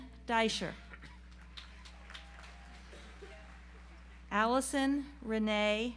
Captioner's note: audience applauds